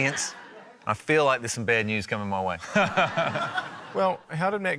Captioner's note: laughter